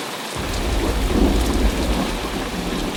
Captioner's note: thunder